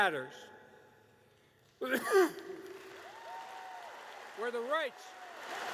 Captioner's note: applause